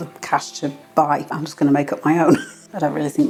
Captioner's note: laugh